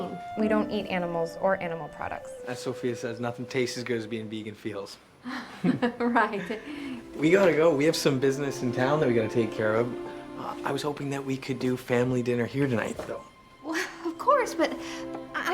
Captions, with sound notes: WE DON'T EAT ANIMALS OR ANIMAL PRODUCTS. AS SOPHIA SAYS, NOTHING TASTES AS GOOD AS BEING VEGAN FEELS. [LAUGHS] RIGHT. WE GOTTA GO. WE HAVE SOME BUSINESS IN TOWN THAT WE GOTTA TAKE CARE OF. I WAS HOPING THAT WE COULD DO FAMILY DINNER HERE TONIGHT, THOUGH.